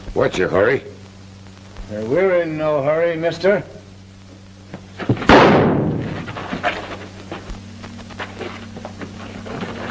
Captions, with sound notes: What's your hurry? We're in no hurry, mister. [gunshot]